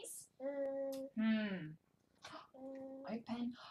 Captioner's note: babbling